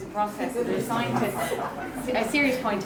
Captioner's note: audience chuckling